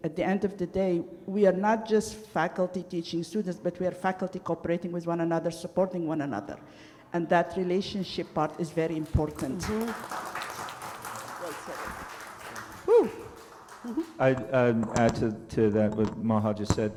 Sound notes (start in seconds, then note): 10.3 applause